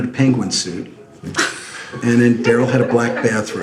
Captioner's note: laughs